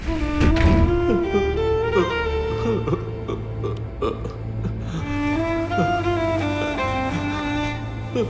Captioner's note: crying